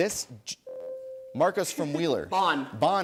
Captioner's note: ding